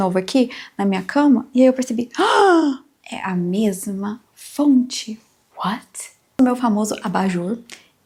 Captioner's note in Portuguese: suspirando